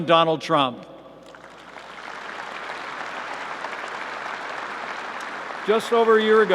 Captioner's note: applause